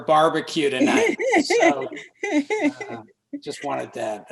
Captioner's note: laughs